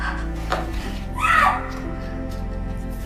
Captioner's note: Hannah screams